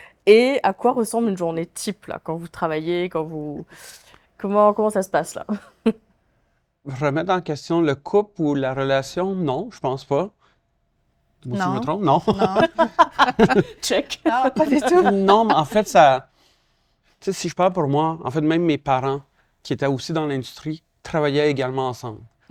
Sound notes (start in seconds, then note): 11.5 laughs